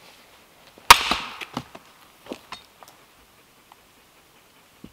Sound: ax thudding

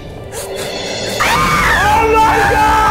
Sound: screams

